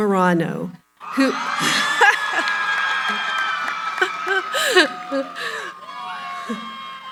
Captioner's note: cheering